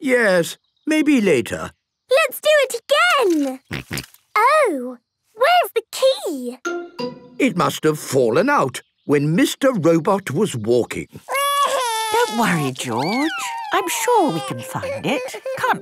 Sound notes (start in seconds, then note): 3.7 snorting; 11.5 George wailing